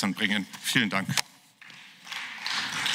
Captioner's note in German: Beifall